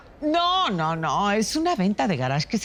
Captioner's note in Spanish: none